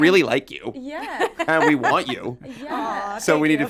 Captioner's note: laughs